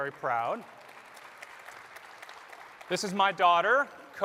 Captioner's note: applause